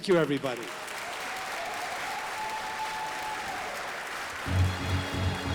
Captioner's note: audience applauding